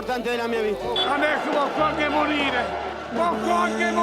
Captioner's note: Applauso